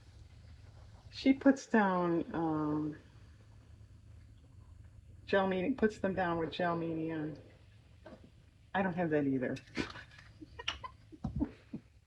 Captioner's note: laughs